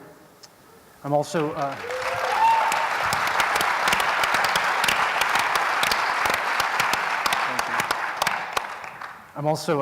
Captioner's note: applause